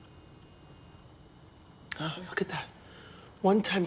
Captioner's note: beep, beep